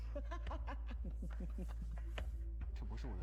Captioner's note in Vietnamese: tiếng cười